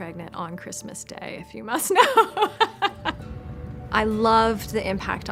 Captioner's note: laughs